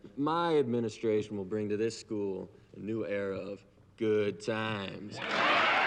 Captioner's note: audience applauding; audience cheering